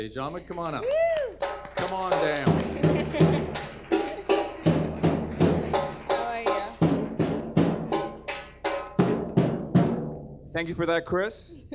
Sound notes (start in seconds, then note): 2.9 audience applause; 2.9 drumming begins; 8.9 drumming ends